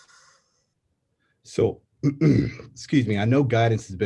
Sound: clears throat

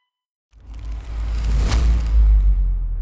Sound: unfurling sound. Slam

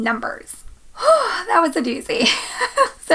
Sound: sighs; chuckles

